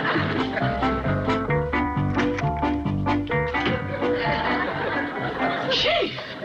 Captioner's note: sighs